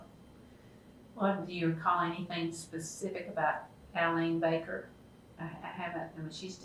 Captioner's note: laughs